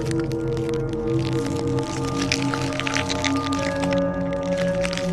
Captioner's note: none